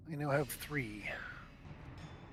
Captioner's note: none